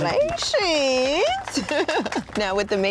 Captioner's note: applause